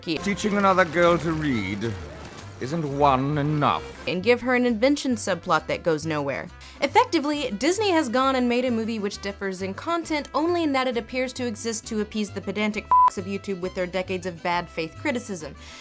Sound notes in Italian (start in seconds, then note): 4.3 voce fuori campo; 12.8 beep